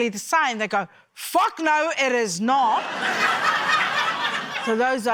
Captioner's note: laughter